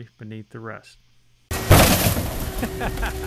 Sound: bam!!

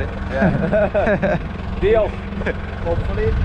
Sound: laughing

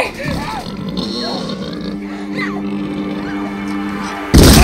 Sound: pig snorting; gunshot

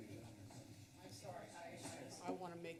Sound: background conversations

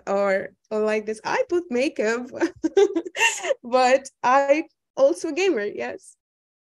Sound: chuckling

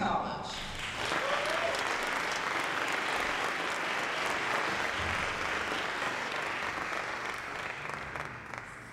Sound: applause

